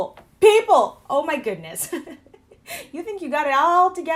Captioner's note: laughs nervously